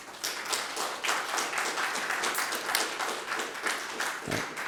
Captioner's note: audience applauds